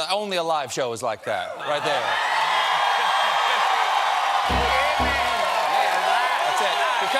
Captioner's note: cheers and applause